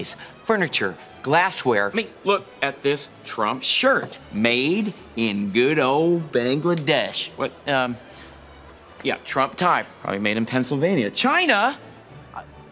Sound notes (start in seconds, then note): none